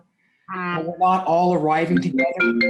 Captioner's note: phone vibrating; phone ringing